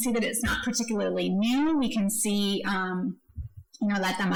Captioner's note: speaking foreign language